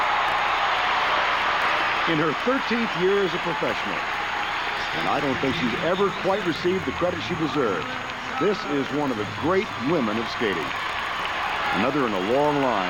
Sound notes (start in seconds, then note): 2.4 cheers and applause